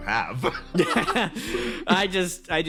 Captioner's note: laughs